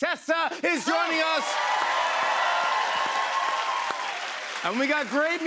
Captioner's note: cheers and applause